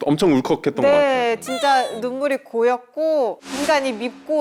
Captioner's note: sniffle